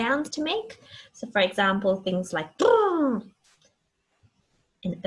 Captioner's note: mimicking animal sound